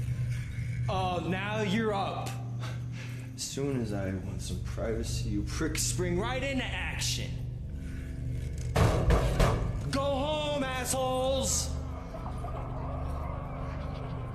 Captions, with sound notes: Oh, ora sei sveglio. Non appena voglio un po' di privacy, voi coglioni entrate subito in azione. [BATTI ALLA PORTA] Andate a casa, stronzi. [RISATE LONTANE]